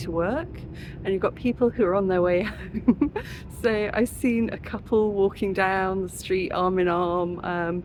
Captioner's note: laughing